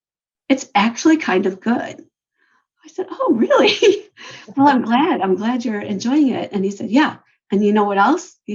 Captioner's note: laughs